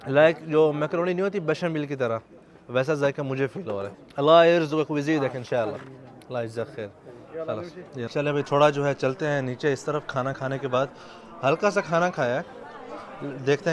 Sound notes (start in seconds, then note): 4.2 Arabic